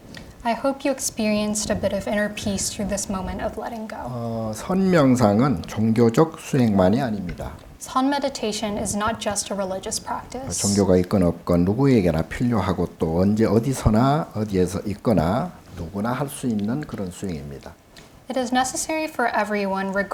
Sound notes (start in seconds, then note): 4.9 speaking Korean; 11.0 speaking Korean